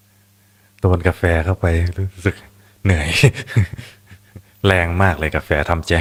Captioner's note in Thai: เสียงหัวเราะ